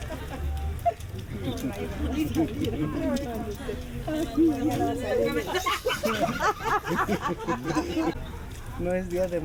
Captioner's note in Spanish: Risas